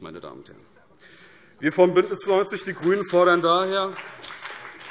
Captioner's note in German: Beifall BÜNDNIS 90/DIE GRÜNEN